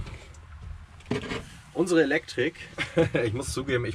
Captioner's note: laughing